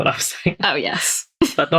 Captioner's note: laughs